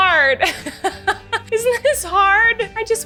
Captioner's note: laughs